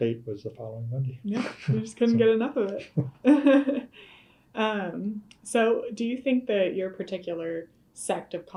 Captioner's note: laughter